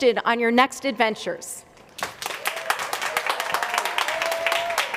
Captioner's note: applause